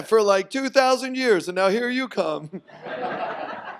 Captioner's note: audience laughs